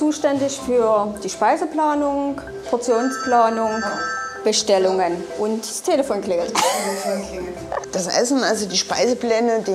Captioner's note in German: Telefon klingeln; Lachen